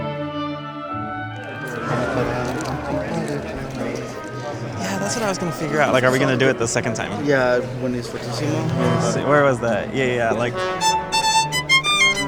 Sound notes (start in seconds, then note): 1.8 people chattering; 10.0 bright violin music